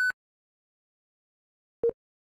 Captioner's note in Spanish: Pitido